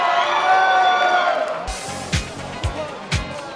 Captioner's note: audience cheers and applause